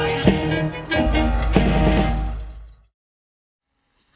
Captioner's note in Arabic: أصوات البلدوزر وانهيار الجدران; توقف الموسيقى